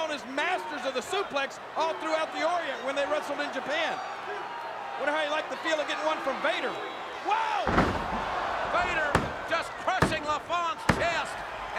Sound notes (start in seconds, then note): 7.3 crowd shouting